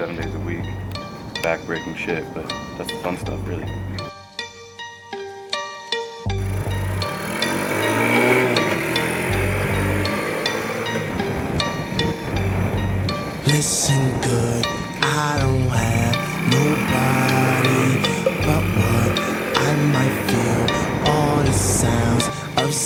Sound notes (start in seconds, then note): 4.8 hip-hop song; 7.1 engine revving